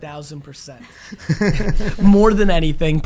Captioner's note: laughing